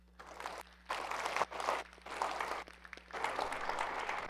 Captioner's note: audience applauds